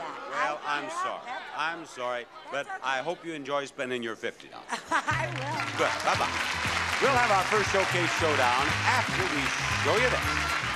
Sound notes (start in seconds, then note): 4.7 laughs; 5.1 upbeat theme music